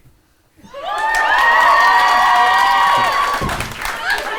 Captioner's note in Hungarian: ujjongás és taps